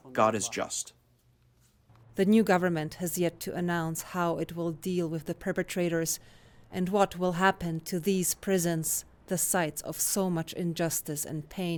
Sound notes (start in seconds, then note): 2.6 voice-over